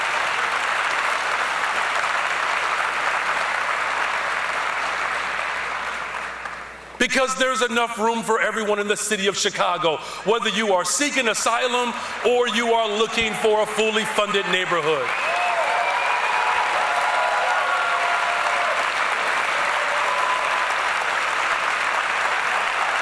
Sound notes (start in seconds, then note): 13.9 cheers and applause